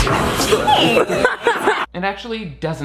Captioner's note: group laughing